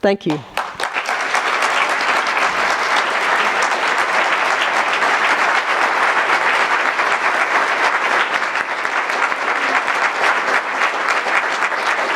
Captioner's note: applause